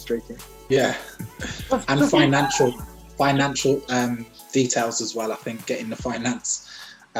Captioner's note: laughs